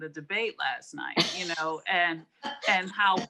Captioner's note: laughing